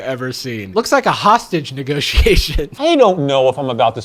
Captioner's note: laughs